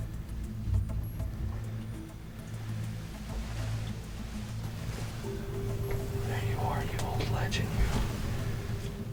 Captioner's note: whispering